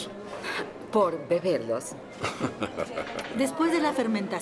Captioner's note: laughing